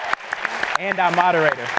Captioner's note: applause